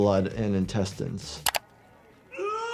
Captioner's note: screams